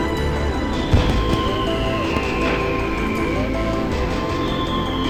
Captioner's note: fireworks booming